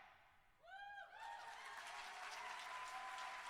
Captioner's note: cheering